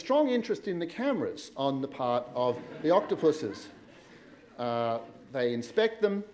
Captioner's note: laughter